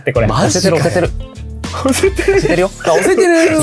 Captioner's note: laughs